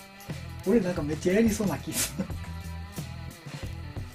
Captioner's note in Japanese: 笑い